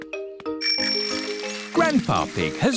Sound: bell rings

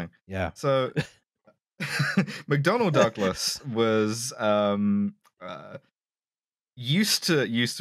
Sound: laughs

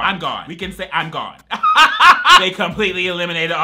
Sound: laughs

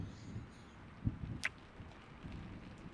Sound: kiss

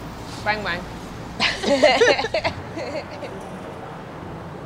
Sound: laughing

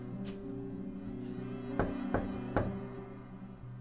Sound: knocking continues

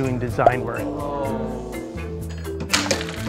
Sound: students groan

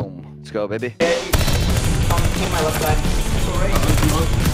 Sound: gun fire

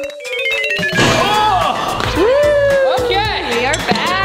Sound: groaning

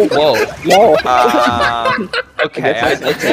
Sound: laughing

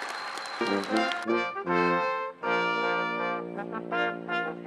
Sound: attendees applauding and cheering; band music

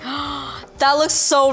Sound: gasps

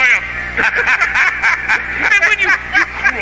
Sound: both laugh

